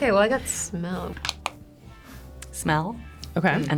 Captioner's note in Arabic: نقرات الزر